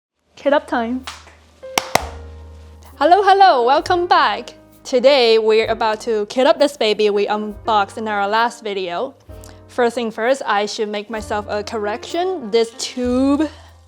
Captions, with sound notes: Kit up time [Claps] hello hello welcome back. today we're about to kit up this baby we unboxed in our last video first thing first I should make myself a correction: this tube